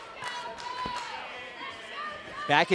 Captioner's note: fans chanting